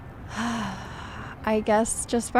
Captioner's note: sighs